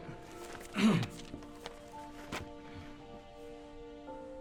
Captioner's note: clearing throat